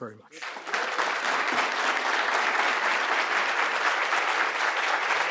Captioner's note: audience applauds